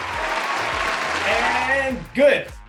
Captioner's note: applauding